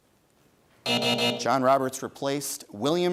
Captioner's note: buzzer sounds